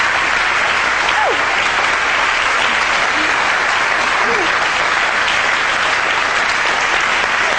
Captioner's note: audience clapping